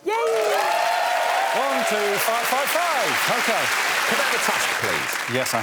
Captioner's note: applause